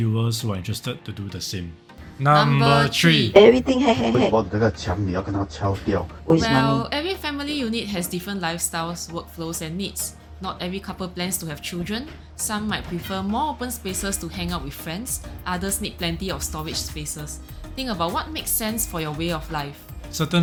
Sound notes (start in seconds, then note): 4.8 in Mandarin